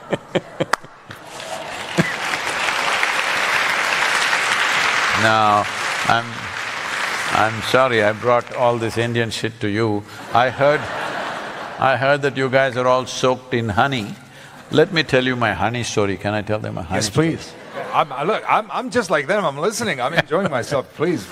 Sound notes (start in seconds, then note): 10.1 laughter